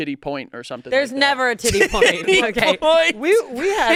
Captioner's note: laughs